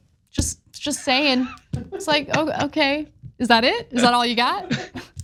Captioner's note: laugh